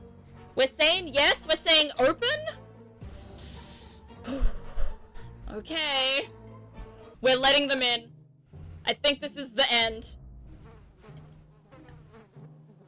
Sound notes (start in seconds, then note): 3.0 deep breath